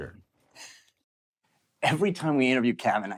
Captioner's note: laughs